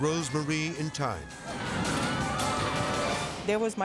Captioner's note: people screaming; dramatic whoosh